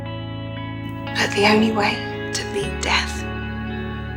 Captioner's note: voiceover